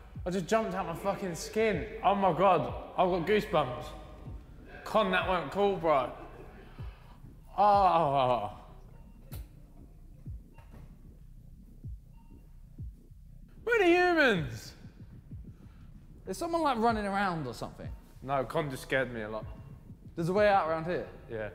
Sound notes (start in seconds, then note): 9.3 alarm beeps softly